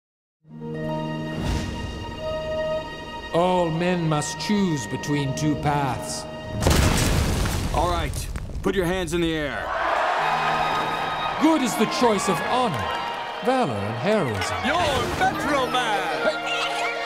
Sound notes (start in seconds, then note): 10.0 cheering